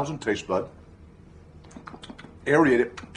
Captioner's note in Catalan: Sons de mastegar